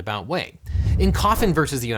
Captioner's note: air whooshing